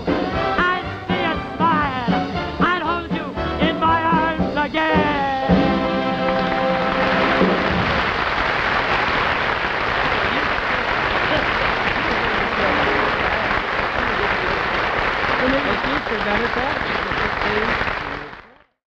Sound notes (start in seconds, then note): 6.2 audience applauding; 12.2 ed drowned out by applause